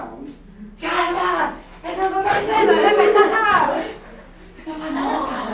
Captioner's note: excitedly speaking grammelot